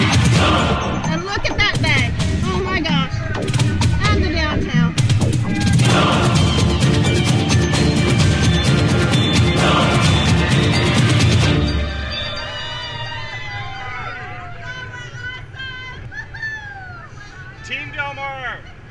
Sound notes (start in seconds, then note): 4.8 fast music; 12.4 crowd cheering